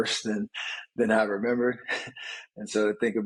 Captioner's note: laughter